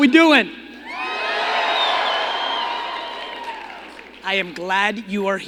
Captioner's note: crowd cheering